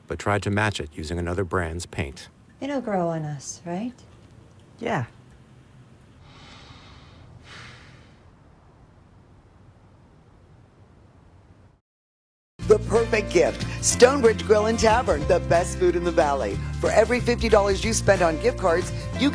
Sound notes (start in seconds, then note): 6.2 man sighing